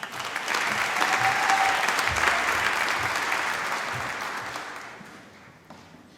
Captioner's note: applause